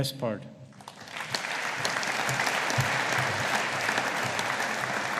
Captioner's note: audience applauding